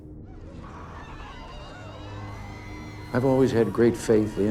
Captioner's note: crowd talking and cheering